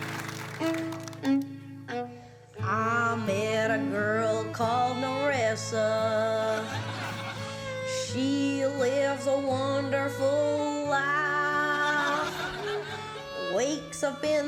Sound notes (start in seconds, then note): 2.1 drawls